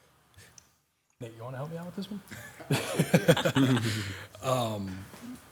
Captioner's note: laughs